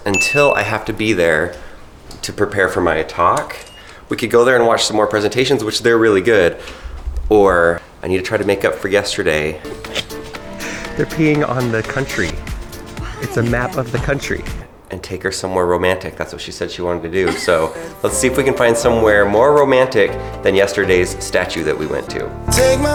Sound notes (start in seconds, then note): 9.6 laughs